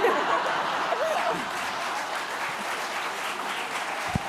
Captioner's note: laughing; applause